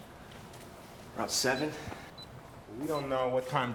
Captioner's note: alarm system beeping